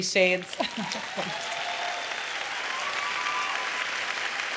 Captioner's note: applause